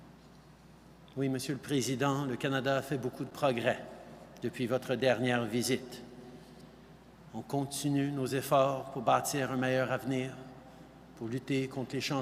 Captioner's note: speaking French